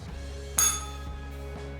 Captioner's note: bell rings